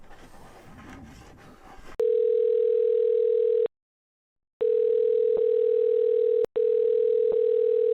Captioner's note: phone Ringing